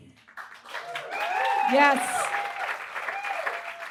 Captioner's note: audience cheers